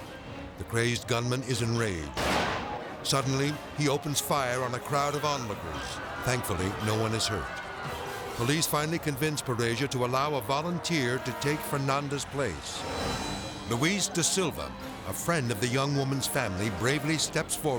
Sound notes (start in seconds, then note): 2.1 pistol bangs; 7.0 onlookers clamoring